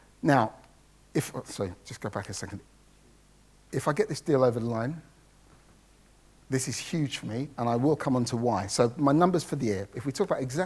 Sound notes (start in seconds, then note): none